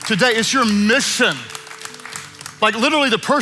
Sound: congregation clapping

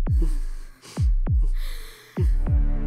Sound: breathes heavily

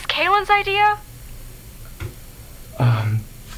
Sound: water continues running

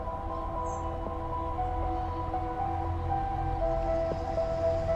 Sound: birds chirping

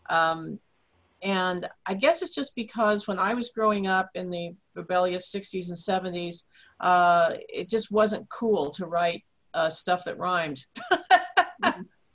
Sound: laughs

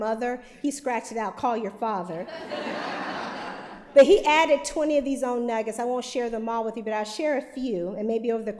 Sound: laughter

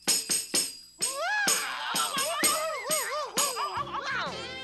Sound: cheering

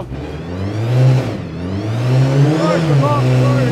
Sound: engine revving

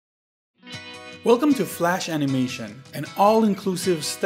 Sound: voiceover

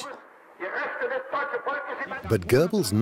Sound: broadcast in German plays over the radio

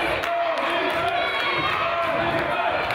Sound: claps

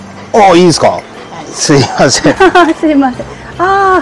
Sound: laughs

